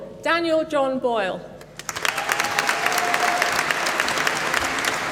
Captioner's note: applause